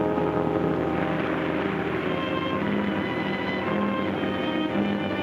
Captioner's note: water splashes